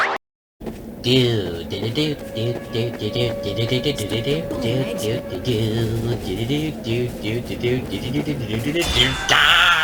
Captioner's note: mimics